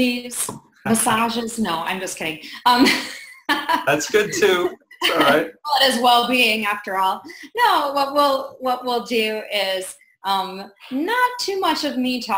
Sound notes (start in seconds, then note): 2.6 laughs